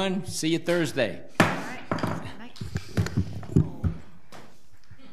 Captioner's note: gavel bangs